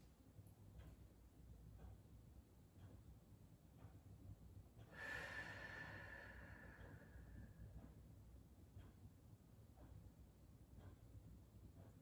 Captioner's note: breathing